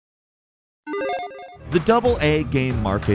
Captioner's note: gentle chime